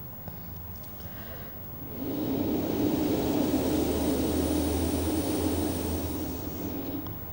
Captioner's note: blows into the microphone